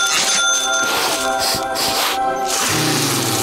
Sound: sniffing

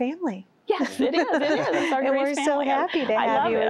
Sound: laughter

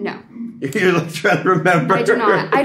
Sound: Gaten laughs

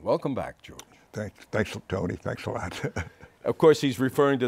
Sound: chuckles

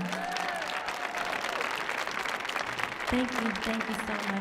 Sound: audience cheering

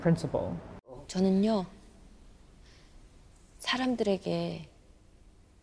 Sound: woman speaking Korean

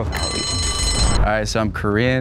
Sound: bell dings

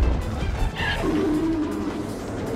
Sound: Fire Rodan roars

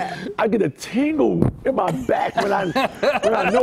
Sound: laughter

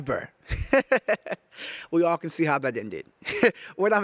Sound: laughing

